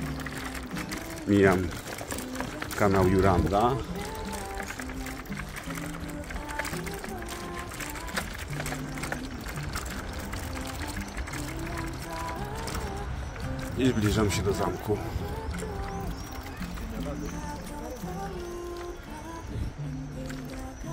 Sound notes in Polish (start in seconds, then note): 11.1 Aplauz